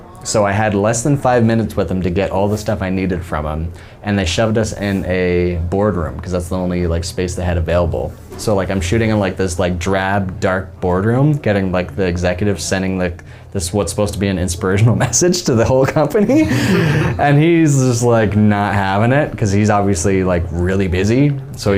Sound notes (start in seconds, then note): 16.1 men laughing